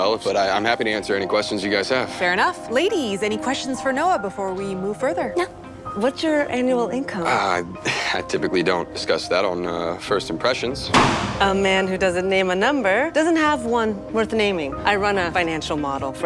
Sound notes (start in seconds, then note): 7.7 chuckles; 10.9 pops balloon